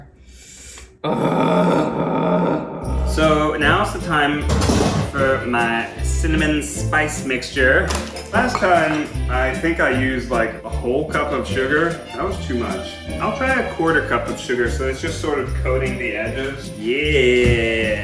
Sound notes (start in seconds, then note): 1.0 groan; 4.5 thud